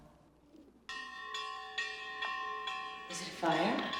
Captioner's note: bell clanging